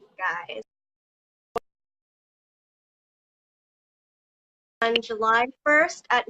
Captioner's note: audio freezes